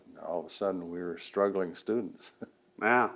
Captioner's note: laughs